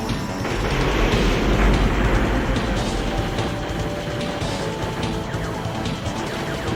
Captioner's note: sound of jet engines; in-game music; rockets firing; in-game music